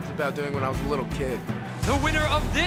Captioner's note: crowd cheering